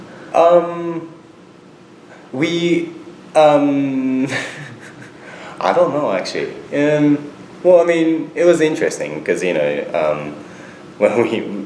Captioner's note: laughs